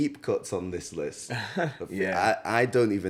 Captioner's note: laughs